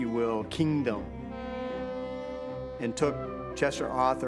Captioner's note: boat horn blowing